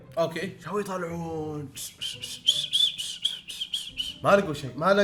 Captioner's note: whistles